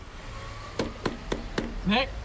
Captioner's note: knocking